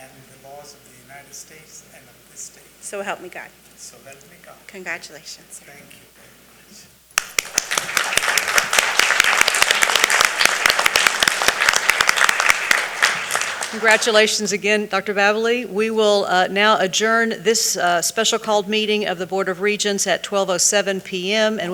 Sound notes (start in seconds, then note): 7.1 attendees applauding